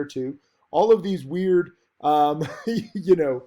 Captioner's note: laughs